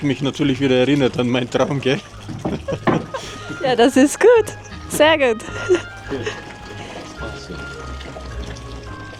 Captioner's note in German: gelächter